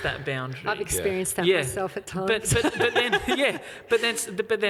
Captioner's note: laughs